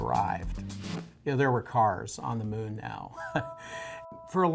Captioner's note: chuckles